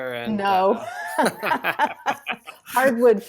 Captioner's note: both laughing